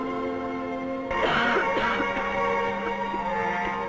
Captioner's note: coughing